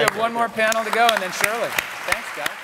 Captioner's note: applause